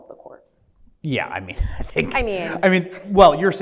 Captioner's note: laughs